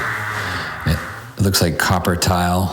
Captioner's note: pipes vibrating